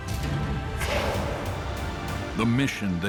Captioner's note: hissing